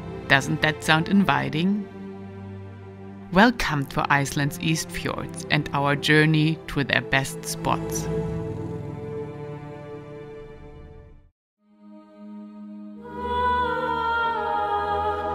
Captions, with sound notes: Doesn't that sound inviting? Welcome for Iceland's East Fjords and our journey to their best spots. (soft music continues) (motorbike whirs) (ethereal music)